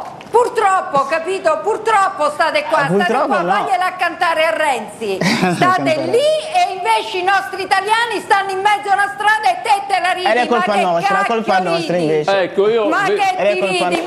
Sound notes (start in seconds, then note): 5.2 laughs